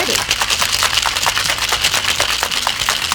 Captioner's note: shaking Noise